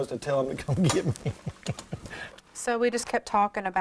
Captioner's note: laughs